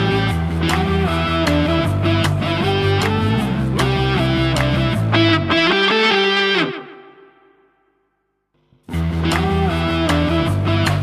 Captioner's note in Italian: Applauso